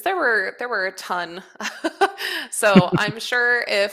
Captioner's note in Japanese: 笑い